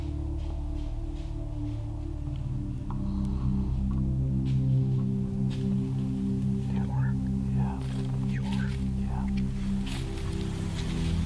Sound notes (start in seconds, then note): 5.8 whispering